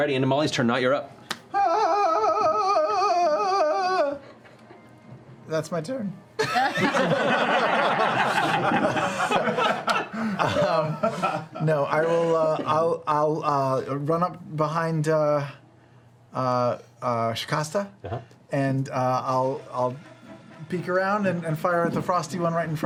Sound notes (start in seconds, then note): 1.5 whimpers; 6.4 laughter